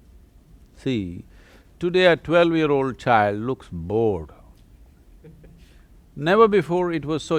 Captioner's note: laughs